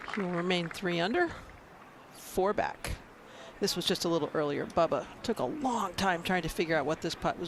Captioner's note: applause